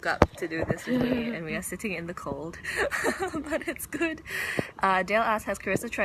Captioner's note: laughs